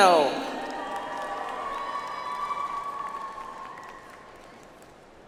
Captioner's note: audience applauds